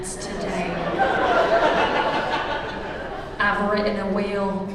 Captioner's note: laughter